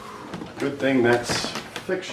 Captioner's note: sighing